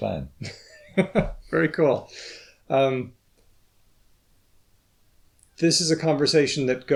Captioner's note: chuckles